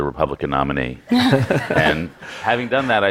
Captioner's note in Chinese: Laughter; 笑聲